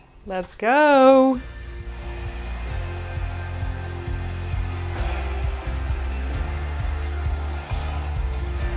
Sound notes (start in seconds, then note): 3.0 hair dryer blowing; 3.0 upbeat music